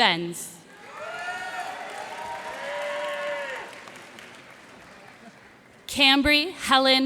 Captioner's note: cheers and applause